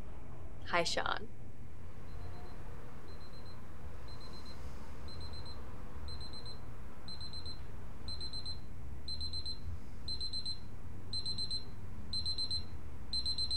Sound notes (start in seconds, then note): 3.7 alarm beeping